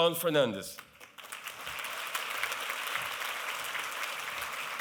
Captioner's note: applause